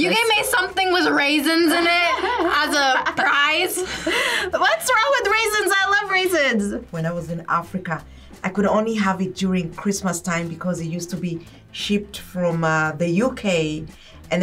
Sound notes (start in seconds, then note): 4.8 laughs